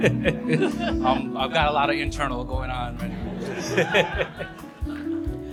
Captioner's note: laughs; laughs